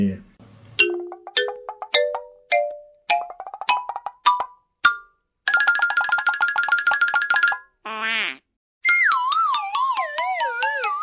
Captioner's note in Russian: Мультяшные звуки